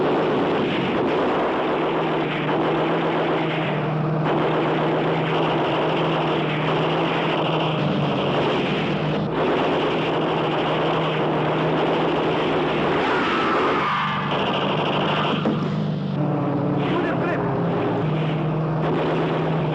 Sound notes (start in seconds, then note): 12.1 scream; 16.4 speaking in Hebrew